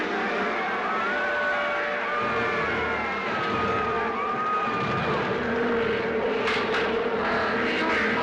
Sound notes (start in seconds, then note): 1.2 applause